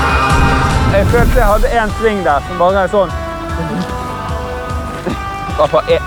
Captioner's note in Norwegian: woomph